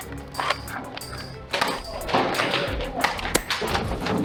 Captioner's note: footsteps; light thunking of blasters; mild crashing